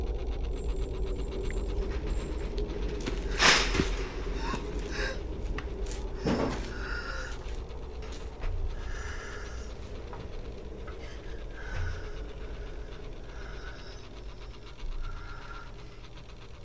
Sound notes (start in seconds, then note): 3.0 plastic rustling; 3.4 Vanessa breathing shallowly; 13.2 electricity buzzing